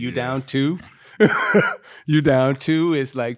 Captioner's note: laughing